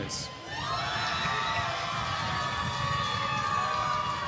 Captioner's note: applause